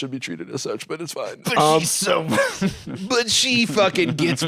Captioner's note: laughs